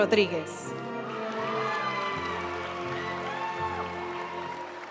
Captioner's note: audience cheering and applauding; graduation music